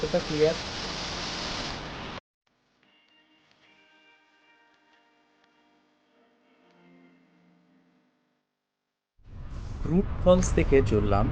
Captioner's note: sound of Nature